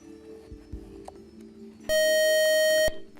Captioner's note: buzzer